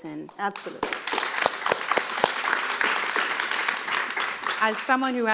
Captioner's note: audience applauding